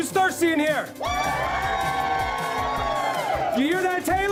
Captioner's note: cheering